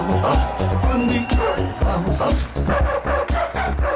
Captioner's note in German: Auch echtes Bellen; Auch echtes Bellen